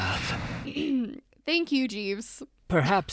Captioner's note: ahem